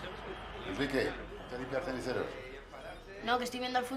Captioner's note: berbicara bahasa spanyol